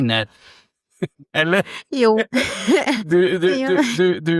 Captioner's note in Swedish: skratt